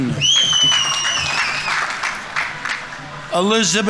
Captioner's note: audience members cheering; audience applauding